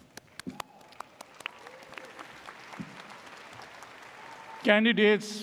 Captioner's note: audience applauds